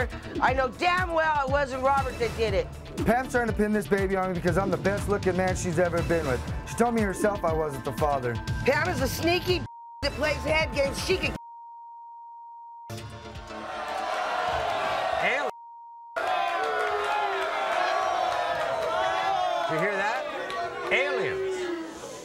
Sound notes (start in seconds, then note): 13.5 audience boos